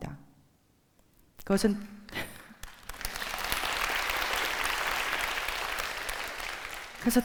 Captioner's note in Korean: 박수